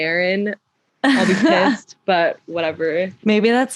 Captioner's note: laughter